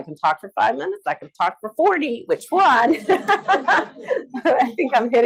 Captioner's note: laughs